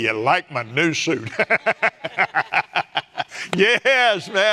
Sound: laughs

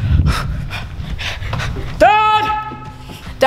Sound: panting

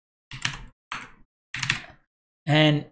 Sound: typing

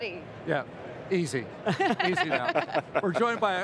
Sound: group chuckles

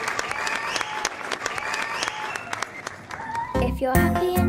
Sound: cheering and clapping

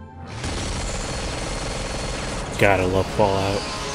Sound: angelic Music; rapid Gunfire

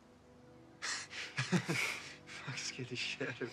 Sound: laughter

